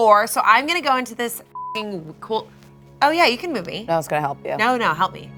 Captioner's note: beep